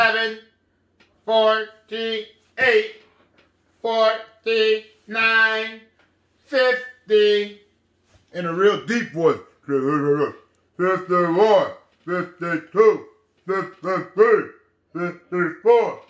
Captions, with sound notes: 49, 50. In a real deep voice. (mutters) 51, 52, 53, 54, 55, 56,